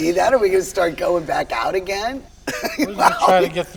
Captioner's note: laughs